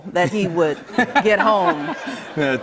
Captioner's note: laughter